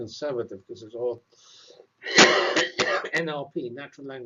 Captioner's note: cough